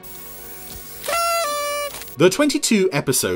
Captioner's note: party horn honking